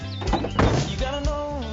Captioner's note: door slams